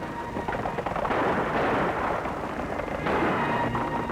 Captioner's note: gunshots